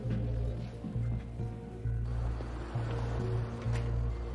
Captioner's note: insects chirping